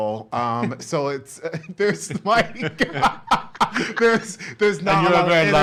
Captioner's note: laughs